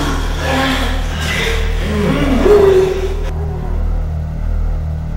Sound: moaning sounds

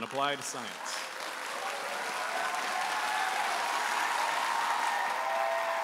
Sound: audience applauding and cheering

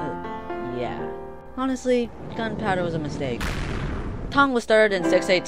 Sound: war in the background

